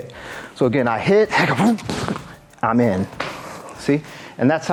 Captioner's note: yells